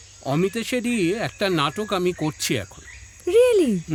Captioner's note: none